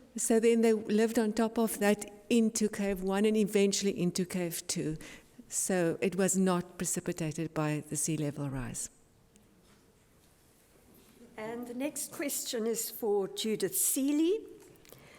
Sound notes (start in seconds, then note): none